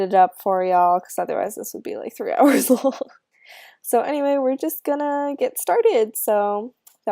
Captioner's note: laughs